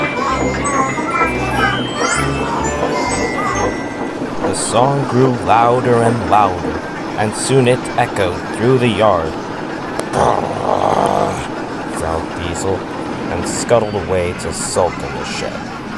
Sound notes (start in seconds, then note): 4.0 Trucks laugh